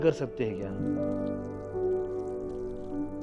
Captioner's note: water pattering